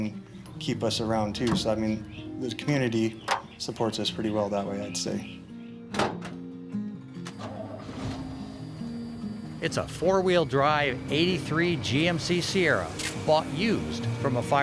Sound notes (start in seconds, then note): 6.8 light music; 8.4 truck engine revving